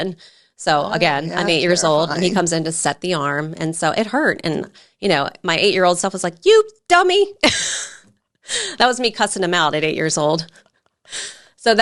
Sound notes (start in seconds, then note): 7.9 laughs